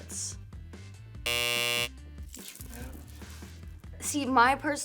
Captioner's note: buzzer buzzes